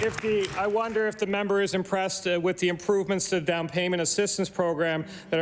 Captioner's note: applause